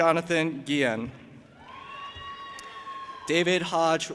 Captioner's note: audience applauding and cheering